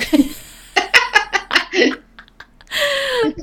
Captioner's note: laughing